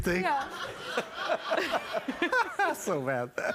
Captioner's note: audience laughs